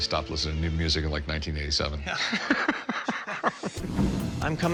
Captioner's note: laughter